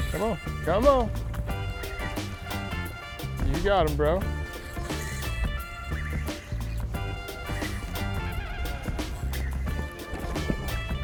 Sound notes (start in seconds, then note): 5.0 reel whirring